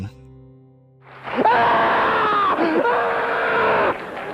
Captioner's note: screaming; laughter, light applause